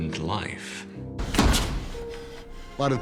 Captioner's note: door slams